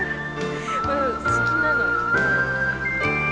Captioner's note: speaks in Japanese